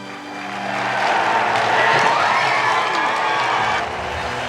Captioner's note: applause